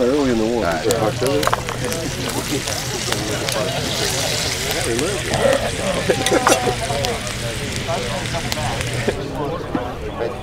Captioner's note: meat sizzling